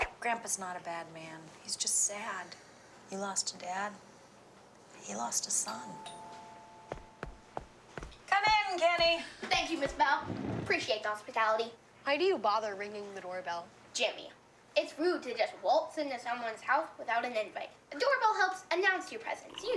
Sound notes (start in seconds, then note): 5.8 doorbell ringing